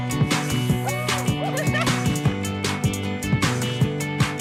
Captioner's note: laughs